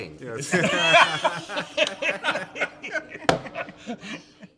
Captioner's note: laughing